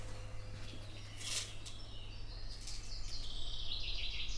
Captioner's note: birds chirping